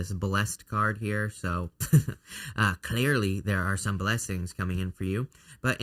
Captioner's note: chuckles